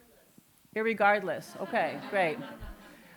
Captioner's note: laughter